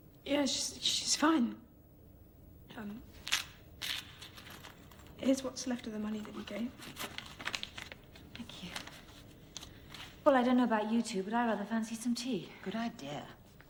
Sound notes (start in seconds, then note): 3.8 paper rustles